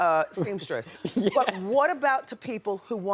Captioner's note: laughs